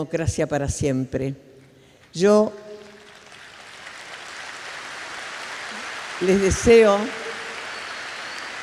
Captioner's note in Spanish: Aplausos